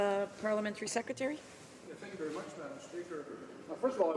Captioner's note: speaking French